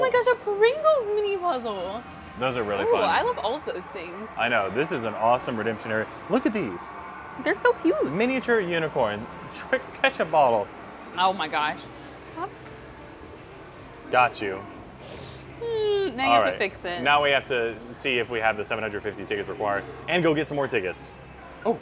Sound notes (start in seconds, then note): 15.6 sobs